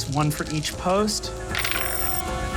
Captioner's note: dice rolling